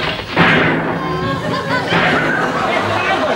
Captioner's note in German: Schüsse im Fernsehen